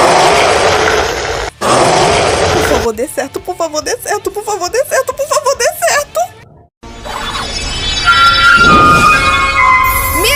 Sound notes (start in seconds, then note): 2.6 monstrous scream of fury